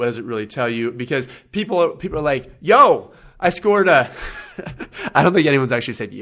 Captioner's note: laughs